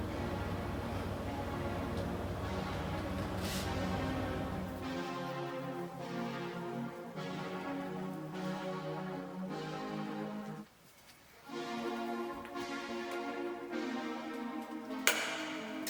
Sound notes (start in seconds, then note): none